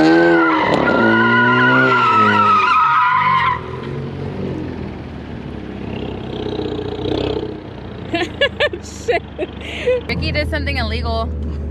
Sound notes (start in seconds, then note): 0.0 engine whirring; 0.1 tires squeaking; 8.1 laughs